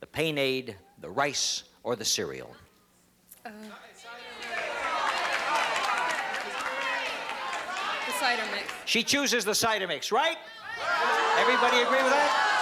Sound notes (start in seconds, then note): 4.0 audience shouting